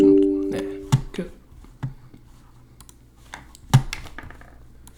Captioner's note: clicking